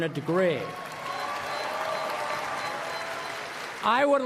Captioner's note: applause